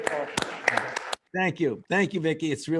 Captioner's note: applause